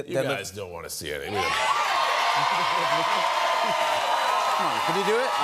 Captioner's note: cheers and applause